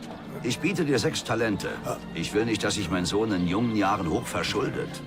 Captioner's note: gasps